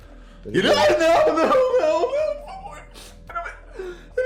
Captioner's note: crying a lot